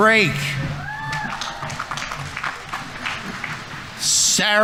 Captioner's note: audience applauding; audience members cheering